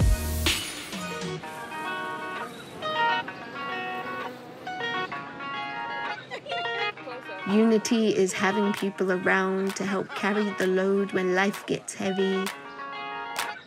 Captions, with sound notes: (music relaxes) (people laughing) Unity is having people around to help carry the load when life gets heavy.